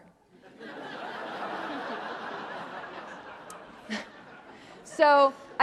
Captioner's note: audience laughing